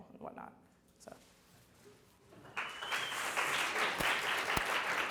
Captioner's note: audience claps